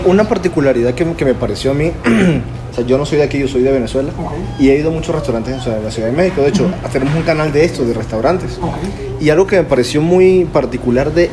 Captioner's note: laugh